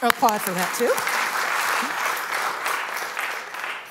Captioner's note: applause